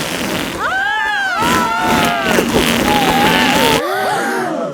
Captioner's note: both screaming; crowd gasps